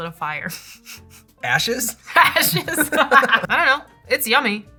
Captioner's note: laughter